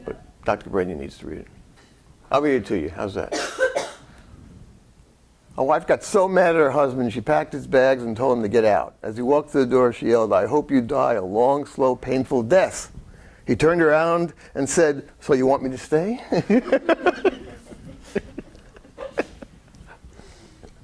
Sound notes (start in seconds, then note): 16.3 laughing